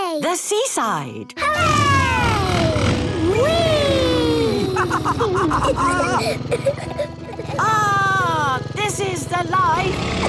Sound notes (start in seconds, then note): 5.2 laughs